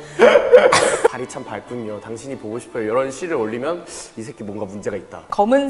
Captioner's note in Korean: 스읍